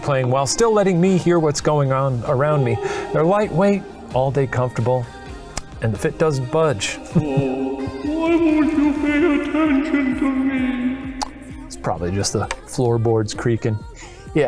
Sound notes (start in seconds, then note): 7.0 chuckling; 7.0 ghost wailing